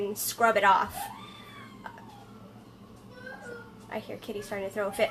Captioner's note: young child crying